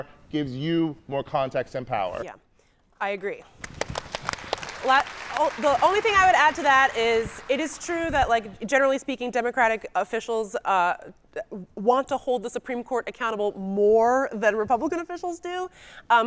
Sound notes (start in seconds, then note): 3.5 audience clapping; 3.6 clapping